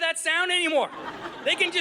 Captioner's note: audience laughing